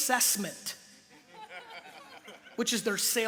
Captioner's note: light laughter